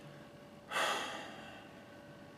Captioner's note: sigh